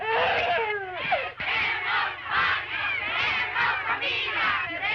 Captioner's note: chanting continues